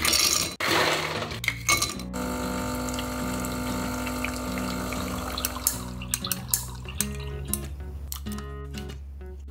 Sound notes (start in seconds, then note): 2.2 machine whirls